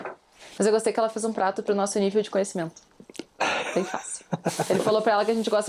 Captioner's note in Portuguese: risadas